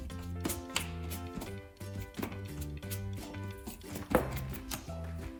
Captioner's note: paintbrush rustling